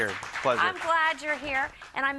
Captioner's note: crowd applauding